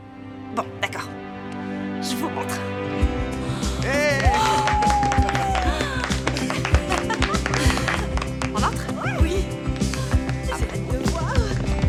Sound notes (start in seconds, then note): 3.8 cheering